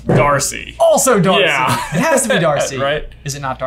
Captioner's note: laughs